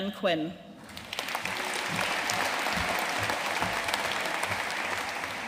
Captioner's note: audience applauding